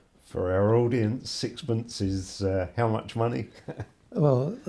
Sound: laughs

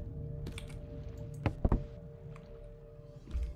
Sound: drawer Thumps

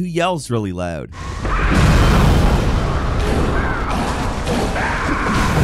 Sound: labyrinth sage screaming

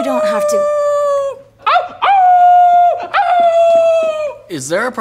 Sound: howling continues

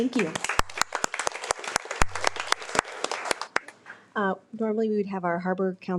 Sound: audience applauds

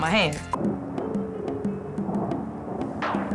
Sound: thunder

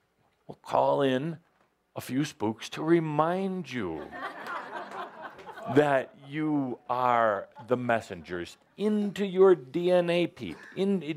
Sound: laugher

